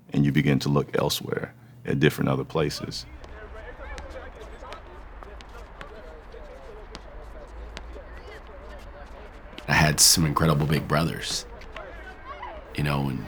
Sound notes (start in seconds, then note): 3.0 ball thunking; 3.6 people chattering